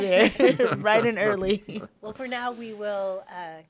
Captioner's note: laughing in unison